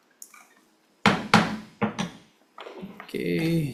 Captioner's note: gavel banging